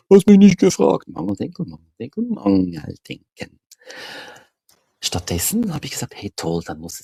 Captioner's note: sighs